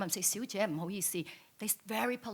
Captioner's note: speaks in foreign language